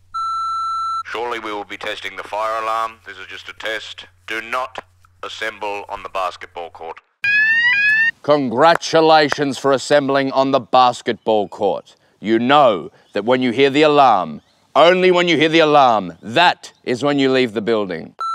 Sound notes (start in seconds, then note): 0.2 intercom beeps; 7.2 fire alarm blares